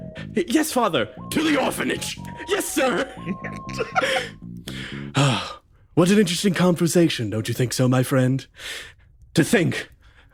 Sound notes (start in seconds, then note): 3.0 laugh; 4.7 sigh